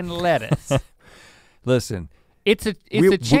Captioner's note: chuckles